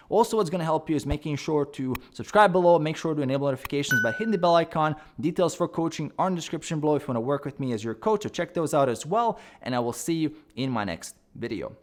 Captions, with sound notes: Also, what's gonna help you is making sure to subscribe below (mouse clicks) and make sure to enable notifications by hitting the bell icon. (bell dings) Details for coaching are in the description below if you wanna work with me as your coach. So check those out as well. And I will see you in my next video.